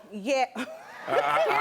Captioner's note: laughs